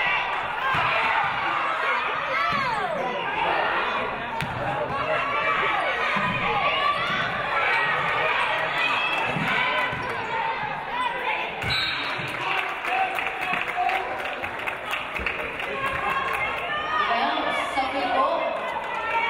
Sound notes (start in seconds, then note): 11.6 referee blows whistle; 14.4 audience applauding